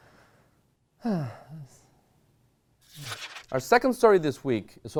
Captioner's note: sighing heavily